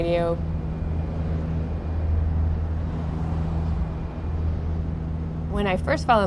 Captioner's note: rumble of engine